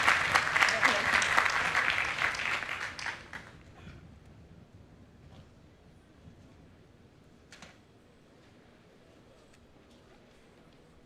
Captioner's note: applause